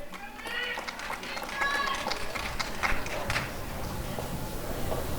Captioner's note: applause and cheering